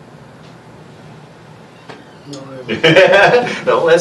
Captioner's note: laughs